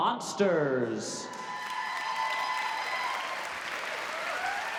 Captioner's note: applause